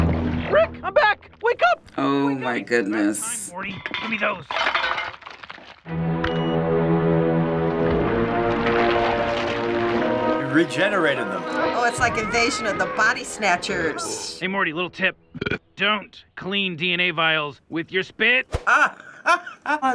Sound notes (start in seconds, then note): 5.8 suspenseful music; 15.3 burps; 18.6 laughs